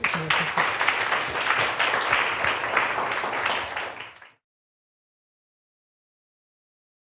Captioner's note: applause